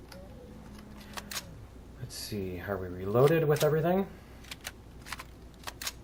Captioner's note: reloading; weapons click